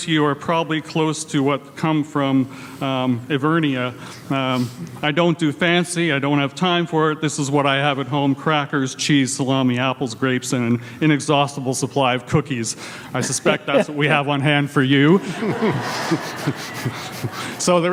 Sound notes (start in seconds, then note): 15.1 everyone laughs; 15.1 laughs